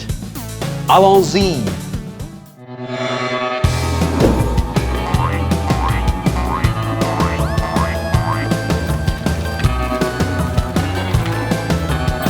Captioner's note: speaking french